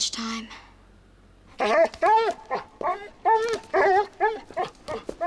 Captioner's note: Bob whining